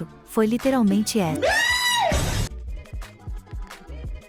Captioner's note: disgusted scream